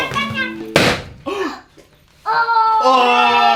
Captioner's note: the balloon pops loudly